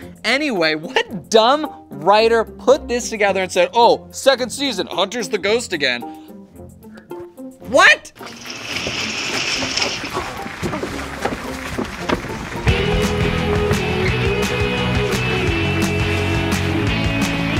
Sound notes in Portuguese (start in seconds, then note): 12.1 Aplausos